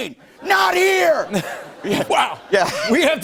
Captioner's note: laughter